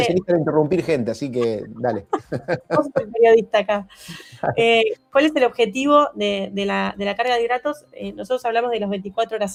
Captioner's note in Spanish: risas